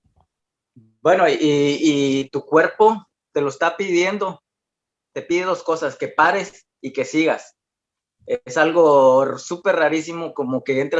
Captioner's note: continues answering in Spanish